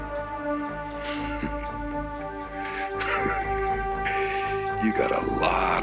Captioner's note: chuckles